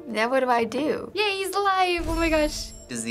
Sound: save chime

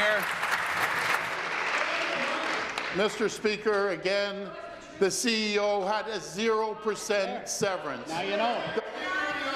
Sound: applause

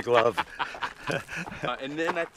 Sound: laughs

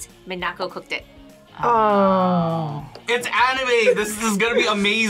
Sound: both groan

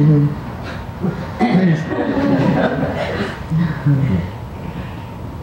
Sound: audience laughing

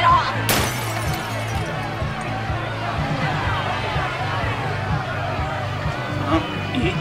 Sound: crowd chaos grows louder

